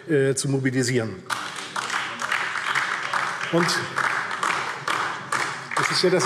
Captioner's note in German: Beifall DIE LINKE